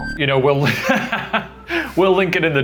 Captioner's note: laughing